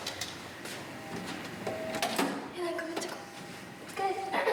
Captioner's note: speaking in foreign language